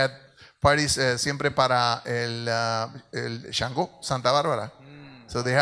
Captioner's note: speaks in Spanish